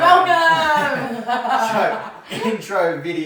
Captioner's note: laughs